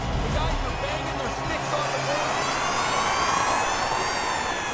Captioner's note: fading electronic whir